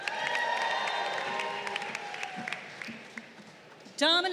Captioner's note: crowd cheering